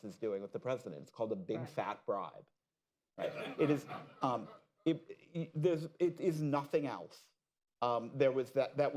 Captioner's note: laughter